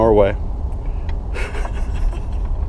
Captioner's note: chuckling